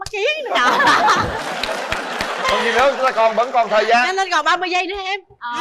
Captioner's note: applause